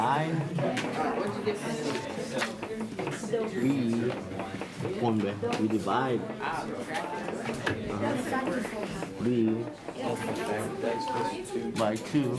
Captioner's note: in Spanish